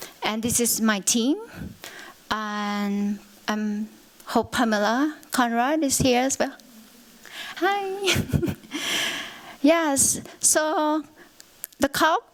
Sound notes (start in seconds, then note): 8.0 chuckles